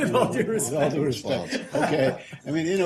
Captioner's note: laughter